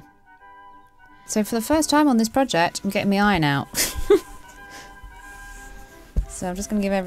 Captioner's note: chuckles